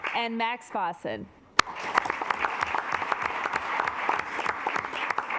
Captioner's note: assembly clapping